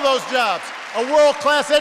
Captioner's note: applause